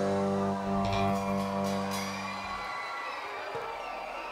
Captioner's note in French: cris et applaudissements